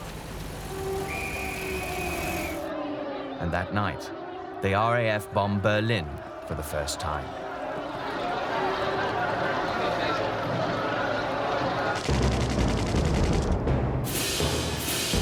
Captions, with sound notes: (whistle blowing) (crowd chattering) And that night, the RAF bomb Berlin for the first time. (crowd chattering) (dramatic music)